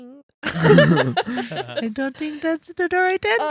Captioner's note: laughing